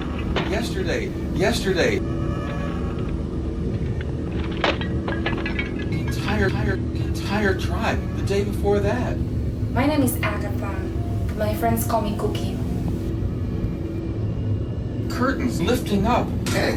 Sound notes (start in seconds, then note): 3.7 device breaking